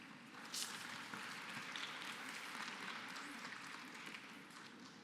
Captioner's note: applause